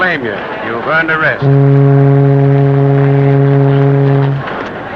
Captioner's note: ship horn